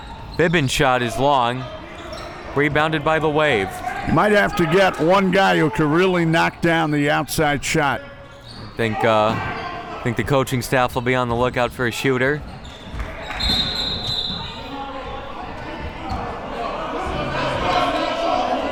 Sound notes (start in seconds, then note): 13.3 whistle blowing